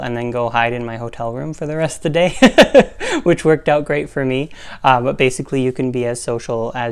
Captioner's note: laugh